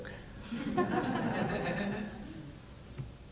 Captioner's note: laughs